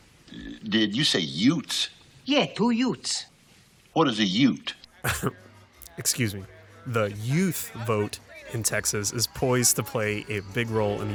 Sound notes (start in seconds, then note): 5.0 laughs